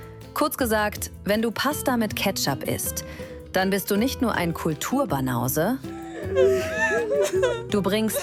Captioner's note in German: gelächter